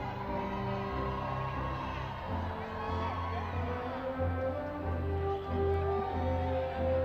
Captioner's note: crowd cheering